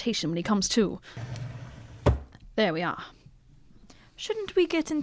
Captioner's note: sounds of them moving an unconscious DEAVIS